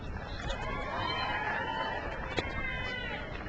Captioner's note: crowd cheers